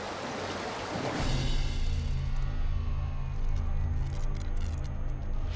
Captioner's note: doorway fizzling